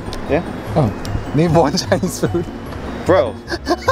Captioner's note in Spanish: se ríe